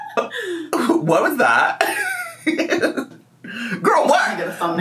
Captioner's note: laughs; laughs